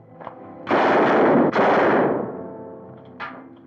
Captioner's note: gun firing